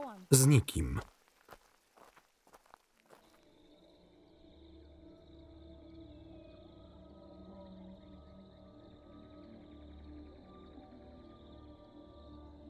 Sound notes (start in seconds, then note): 3.5 insects chirping; 3.5 ominous music